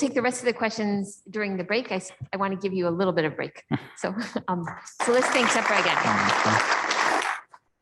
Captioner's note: claps